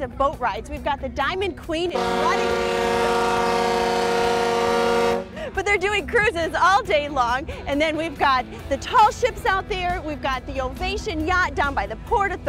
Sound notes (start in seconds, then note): 1.9 horn blasting; 5.0 laughs